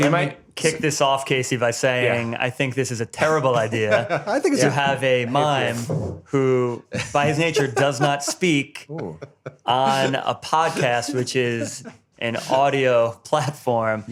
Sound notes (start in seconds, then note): 3.4 laughs